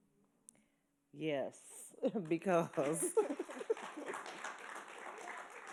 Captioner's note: audience appaluding